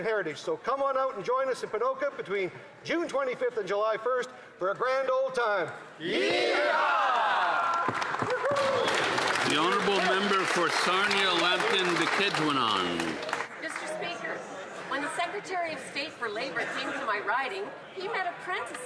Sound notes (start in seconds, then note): 14.8 cheering and Applause